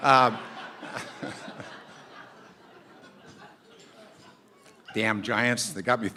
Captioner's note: laughter